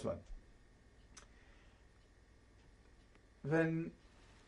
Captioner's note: pauses for 3 seconds